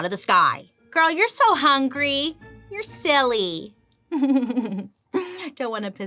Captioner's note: laughs